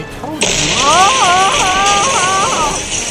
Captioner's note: comical Screaming